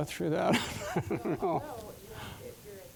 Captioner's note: laughing